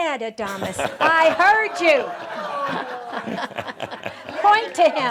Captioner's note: laughter